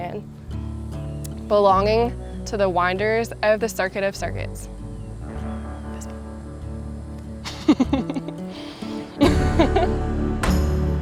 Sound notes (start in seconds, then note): 7.4 laughter; 10.0 instrumental music